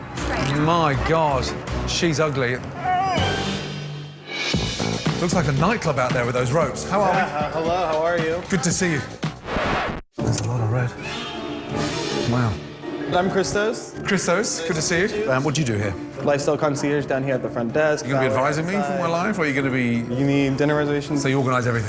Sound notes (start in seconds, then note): 2.8 dog whines